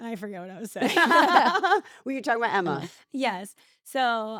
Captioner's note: laugh